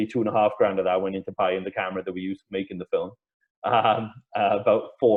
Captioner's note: laughs